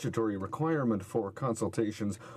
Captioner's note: speaking french